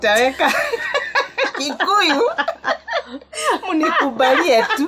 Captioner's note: laughter